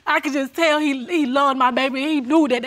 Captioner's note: none